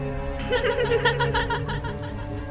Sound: hm ha ha ha

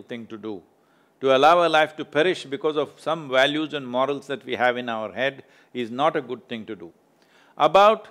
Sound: none

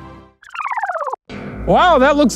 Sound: film rewinding

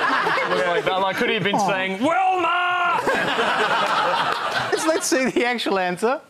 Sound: laughter

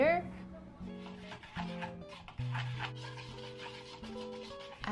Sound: whisking

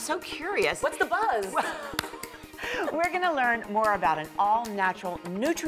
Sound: laughter

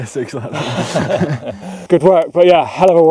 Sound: both laugh

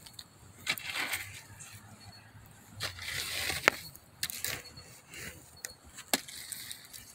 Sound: stick digging around in the hot embers

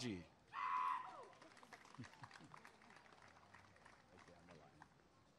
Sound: applause and cheering

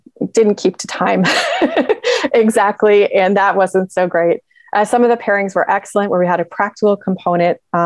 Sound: laughs

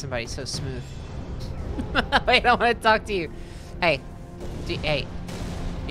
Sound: laughing

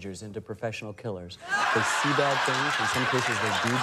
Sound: laughter

